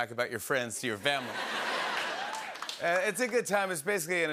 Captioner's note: laughter